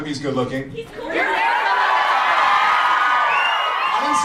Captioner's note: audience screams and cheers